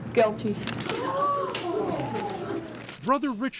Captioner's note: gasping